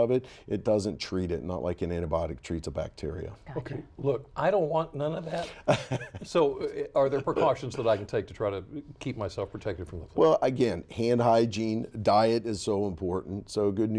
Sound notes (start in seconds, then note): 5.5 laughter